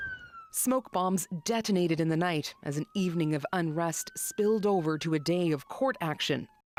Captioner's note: sirens